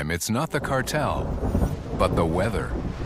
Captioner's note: thunder rumbling